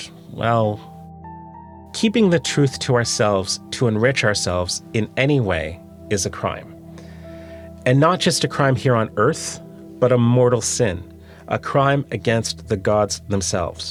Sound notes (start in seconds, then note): none